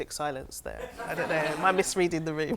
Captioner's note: audience laughs